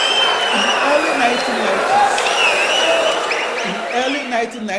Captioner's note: wild applause and cheering for 22 seconds